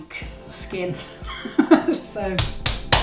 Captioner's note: laughs; slaps